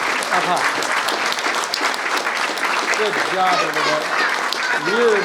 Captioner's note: applause